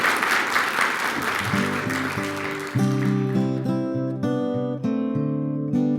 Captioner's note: applause